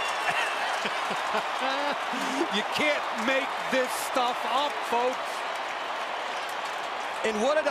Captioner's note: laughs